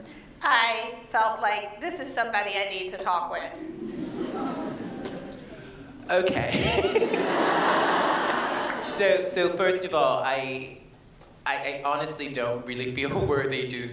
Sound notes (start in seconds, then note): 4.2 laughter